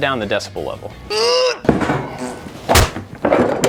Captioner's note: grunts